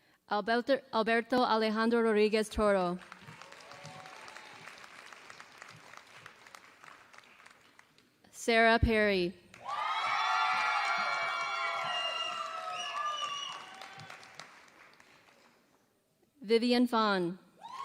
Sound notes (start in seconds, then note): 2.9 applause; 11.2 applause